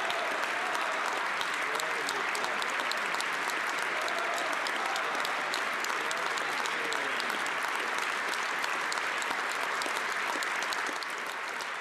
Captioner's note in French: applaudissements